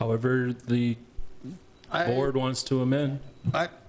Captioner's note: pat